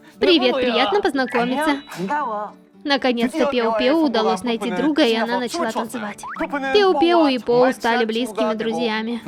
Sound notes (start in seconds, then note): 1.3 Ppowoo with sweet voice